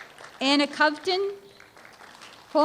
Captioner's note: applause